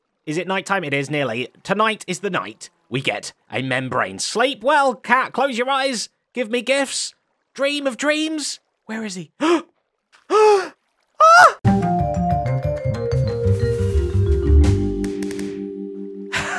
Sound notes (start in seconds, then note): 9.3 gasps; 16.4 laughs